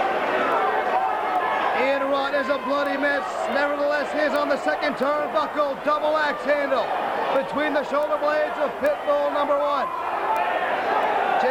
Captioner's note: crowd chatter